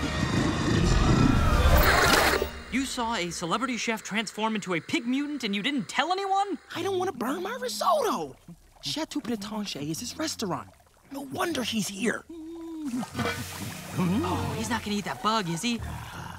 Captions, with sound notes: [screaming] You saw a celebrity chef transform into a pig mutant and you didn't tell anyone? I didn't wanna burn my risotto! Chateau Pretenche is his restaurant. No wonder he's here! [humming] Oh, he's not gonna eat that bug, is he?